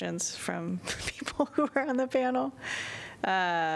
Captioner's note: laughter